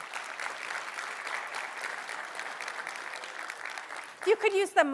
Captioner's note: applause